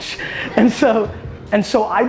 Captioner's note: audience laughter